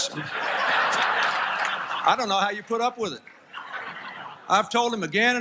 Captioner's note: laughter